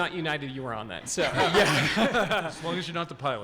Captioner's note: audience laughing